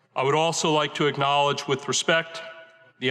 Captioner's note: none